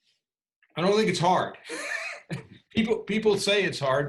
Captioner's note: laughs